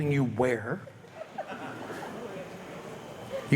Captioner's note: audience light laughter